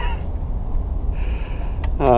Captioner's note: chuckle